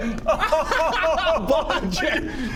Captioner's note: really hurtful laughter